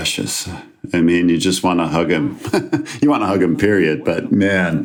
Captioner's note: chuckles